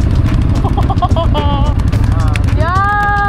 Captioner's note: laugh